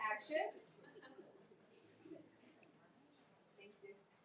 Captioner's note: attendees speaking faintly and laughing